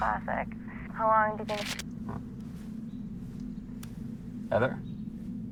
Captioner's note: speaker cut off by static; tense instrumental music